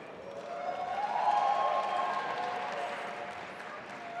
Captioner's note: audience applauding